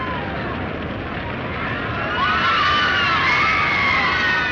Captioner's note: inmates screaming